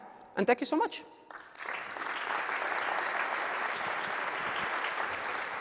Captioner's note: applause